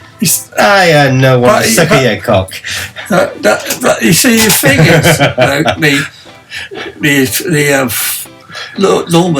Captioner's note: laugh